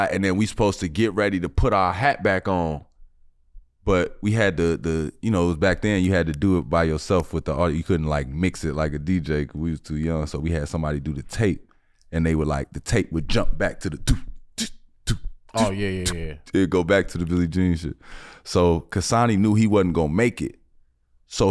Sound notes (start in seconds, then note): 15.0 beatboxing